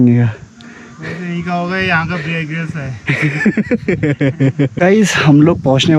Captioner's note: laughs